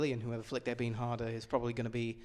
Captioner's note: none